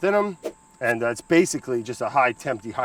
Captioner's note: air whooshes